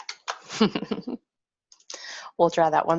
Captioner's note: laughs